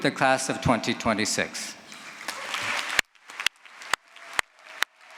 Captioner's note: applause